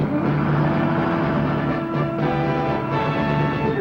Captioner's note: dramatic music; engine whirring; dramatic music